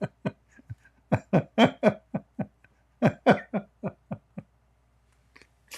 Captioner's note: Ketawa